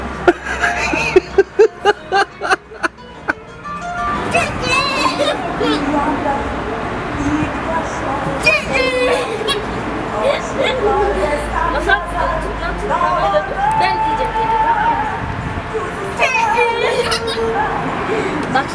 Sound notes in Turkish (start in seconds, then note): 0.2 Kahkaha sesleri; 8.9 gülücük sesleri; 16.6 gülücük sesleri